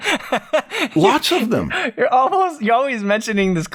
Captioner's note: laughter